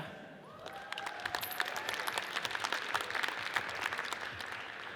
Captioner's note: audience applauds